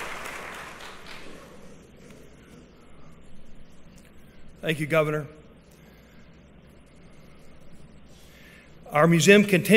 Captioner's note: applause